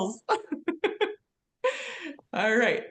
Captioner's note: laughs